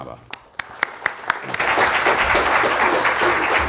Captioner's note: applause